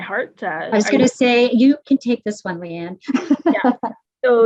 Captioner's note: chuckles